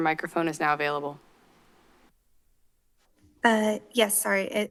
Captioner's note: silence